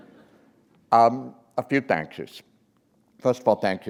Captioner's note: chuckle